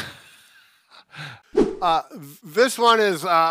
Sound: whooshing sound

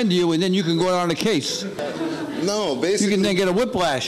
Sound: laughing

